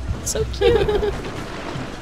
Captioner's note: laughter